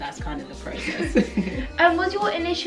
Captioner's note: laughs